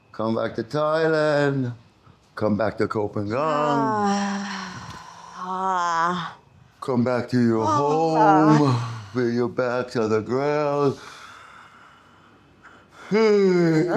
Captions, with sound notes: Come back to Thailand. Come back to Copenhagen. (sighs) (sighs) Come back to your home. Bring your back to the ground.